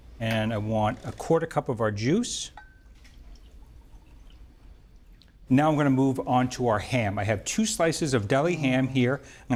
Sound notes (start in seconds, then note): 2.9 juice sloshes